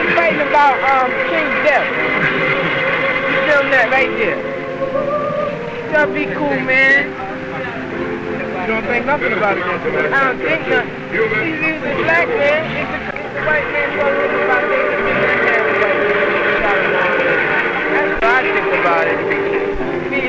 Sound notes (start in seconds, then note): 8.1 crowd murmuring; 8.1 solemn organ music; 17.0 film audio crackling